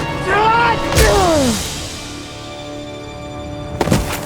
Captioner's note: scream / grunt